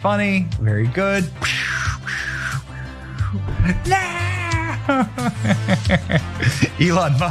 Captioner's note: laugh